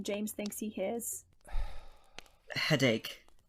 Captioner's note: Sirius sighs